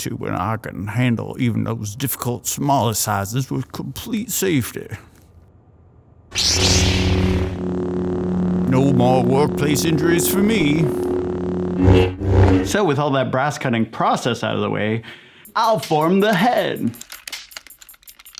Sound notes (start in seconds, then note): 10.8 swoosh; 15.5 techno Music